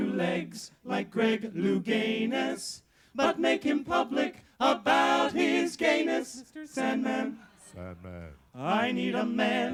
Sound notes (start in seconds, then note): 6.4 falsetto voice